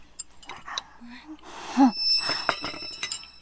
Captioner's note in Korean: 콧방귀